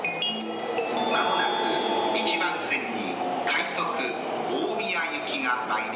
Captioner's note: P.A. in Japanese